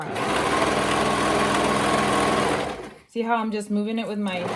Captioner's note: machine whirring